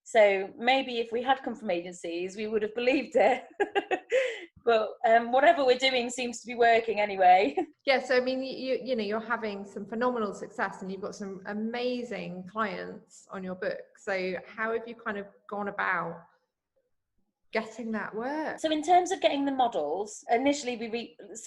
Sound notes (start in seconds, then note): 3.4 chuckles